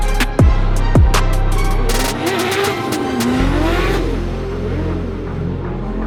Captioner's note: the car shuts down again